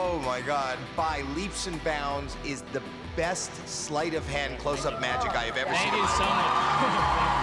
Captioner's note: cheering